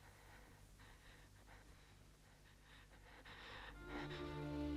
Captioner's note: Hundra's breath shaking; somber music